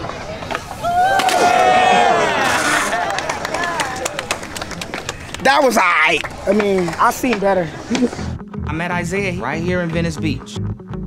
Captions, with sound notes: *crowd applauds* That was AIGHT. I mean, I've seen better. I met Isiah right here in Venice Beach.